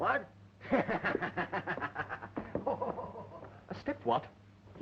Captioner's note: laughing